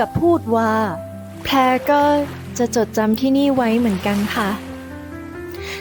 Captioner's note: Pha Phrae, gently